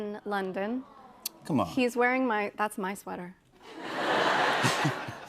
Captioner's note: laughter